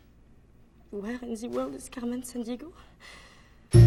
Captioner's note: with French accent